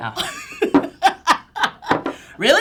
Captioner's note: laughter